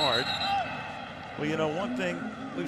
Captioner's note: whistle blows